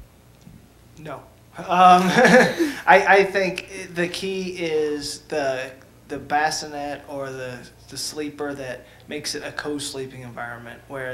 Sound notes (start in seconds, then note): 2.0 laughter